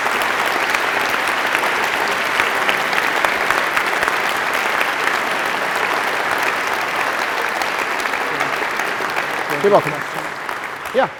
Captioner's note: applause